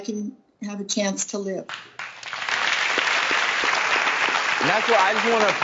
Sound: audience Clapping

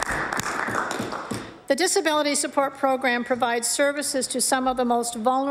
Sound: applause

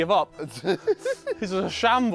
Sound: laughing

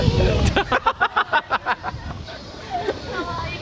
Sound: laughing Out Loud

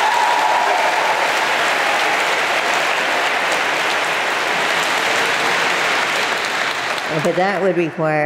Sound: applause

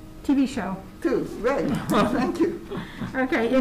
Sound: members laugh

